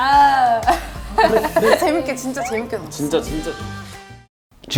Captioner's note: drinking